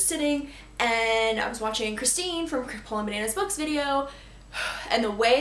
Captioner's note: sigh